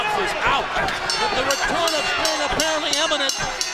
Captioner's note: bell ringing